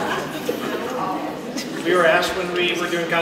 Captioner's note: laughter